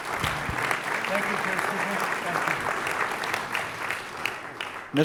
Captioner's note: applause